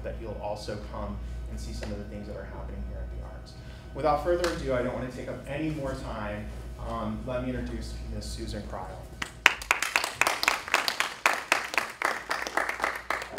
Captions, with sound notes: that you'll also come and see some of the things that are happening here at the arts. Without further ado, I don't want to take up any more time, let me introduce, Miss Susan Crile. (attendees applauding)